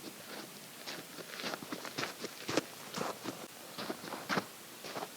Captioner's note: footsteps clomping